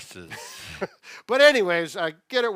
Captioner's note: laughs